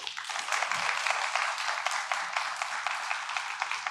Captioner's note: audience applauding